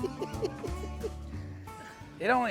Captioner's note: laughs